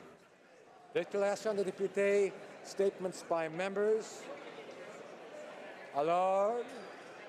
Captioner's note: speaking French